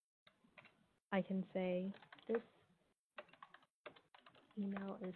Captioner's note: computer keys clicking